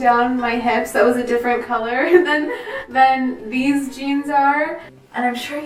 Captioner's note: laugh